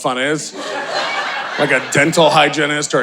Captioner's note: audience laughing